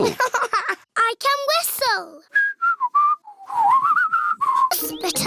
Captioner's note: laughs; whistles